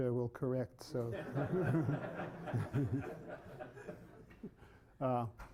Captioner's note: laughter